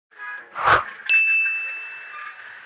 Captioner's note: woosh , ding